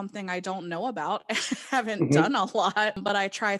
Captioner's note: laughing